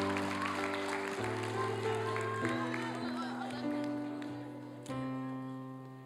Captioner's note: applause and cheering